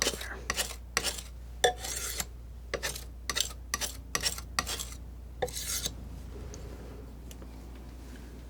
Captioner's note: scratching